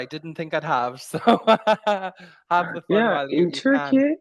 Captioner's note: laughs